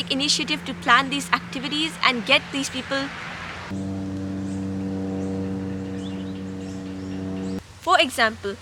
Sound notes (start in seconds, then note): 3.6 insert plane noises